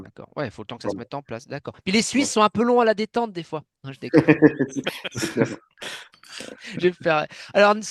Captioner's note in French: rires